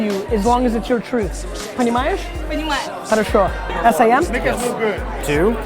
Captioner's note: speaking Russian